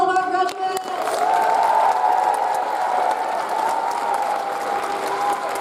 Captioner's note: audience cheers and applauds